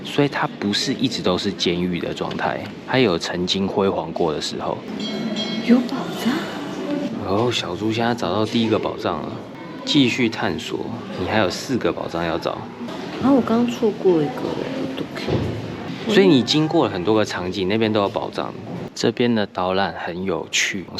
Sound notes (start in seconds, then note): 14.8 Korean